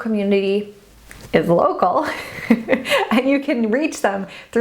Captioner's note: laughs